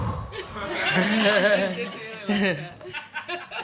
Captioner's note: audience laughing